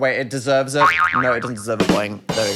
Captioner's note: spring bouncing; snare rimshotting